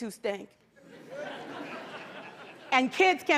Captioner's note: laughter